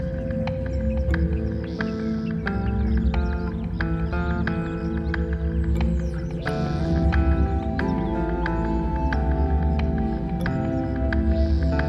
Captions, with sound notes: Come on Phil, this is it. This is what we've been waiting for. (gentle music) (bird chirping)